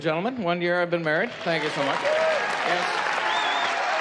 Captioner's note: applause